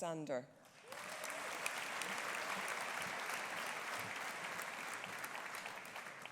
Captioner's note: audience applauding; audience cheering